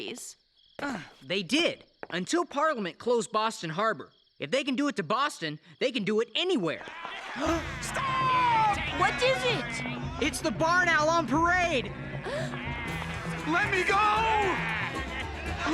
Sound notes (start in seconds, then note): 7.3 mob shouting; 12.2 gasp